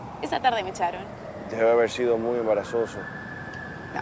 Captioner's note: sirens